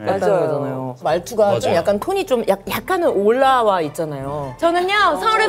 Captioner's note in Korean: 한껏 올라와 있는 목소리 톤